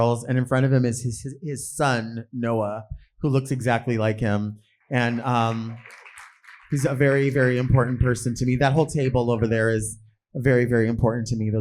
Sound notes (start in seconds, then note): 4.9 audience clapping